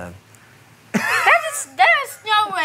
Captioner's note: laughs